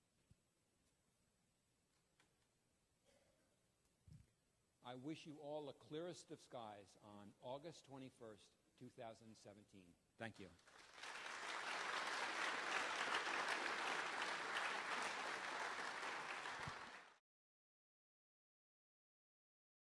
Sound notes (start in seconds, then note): 10.4 applause